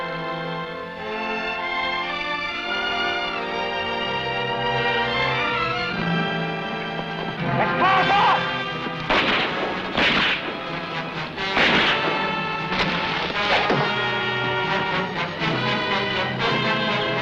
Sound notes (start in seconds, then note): 7.4 gunshots blasting; 13.5 arrow whooshing